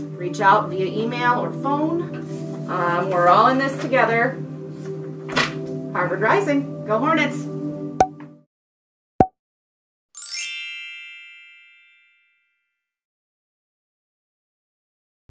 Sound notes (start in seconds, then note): 8.0 notification pops; 10.1 bells chime